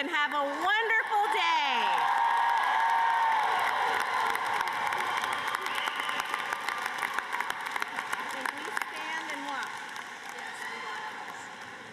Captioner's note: cheers and applause